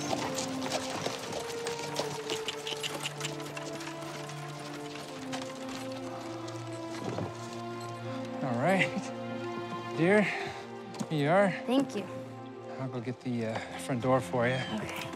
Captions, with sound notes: [tongue clicking] -All right, dear, here you are. -Thank you. -I'll go get the front door for you. -Okay.